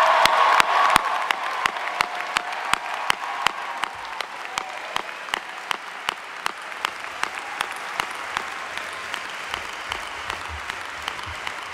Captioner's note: applause